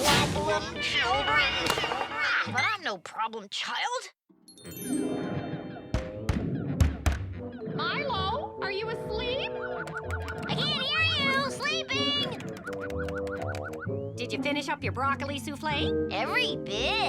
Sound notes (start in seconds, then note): 5.1 knocking